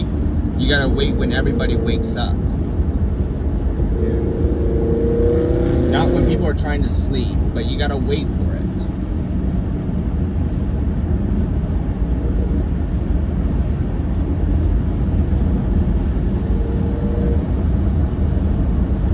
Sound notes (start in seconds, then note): 3.9 motorcycle squealing